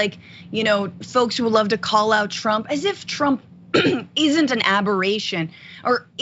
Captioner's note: cough